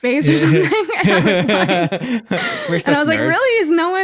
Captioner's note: laughing